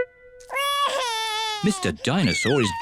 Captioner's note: wails